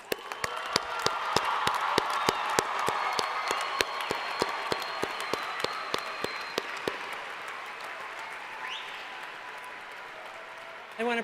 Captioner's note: applause